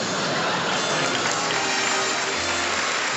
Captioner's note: applause